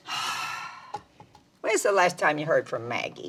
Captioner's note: Mama exhales